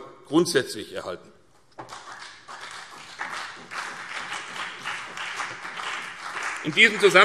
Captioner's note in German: Beifall CDU und BÜNDNIS 90/DIE GRÜNEN